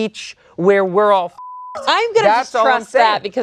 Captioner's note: beep